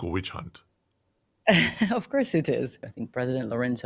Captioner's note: chuckles